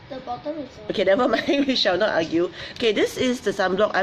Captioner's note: laughs